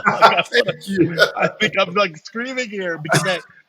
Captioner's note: laughs